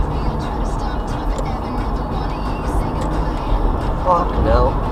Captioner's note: indicator sounds